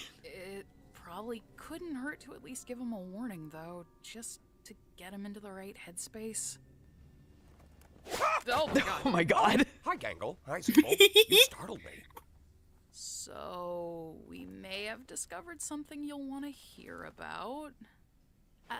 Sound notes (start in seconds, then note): 8.1 sighing; 10.7 laughing